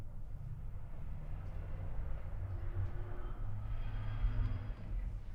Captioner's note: traffic humming faintly